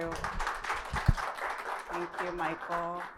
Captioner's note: audience applauds